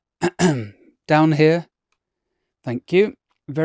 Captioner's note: ahem